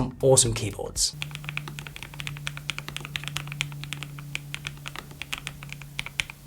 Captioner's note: keyboard clicking